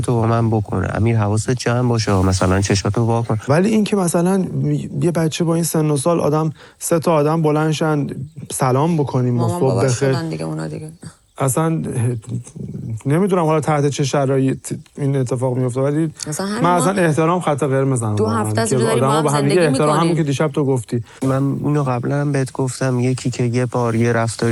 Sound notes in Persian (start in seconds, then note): 10.5 گلویش را صاف می‌کند